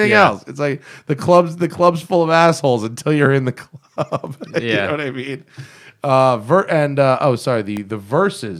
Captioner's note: laughs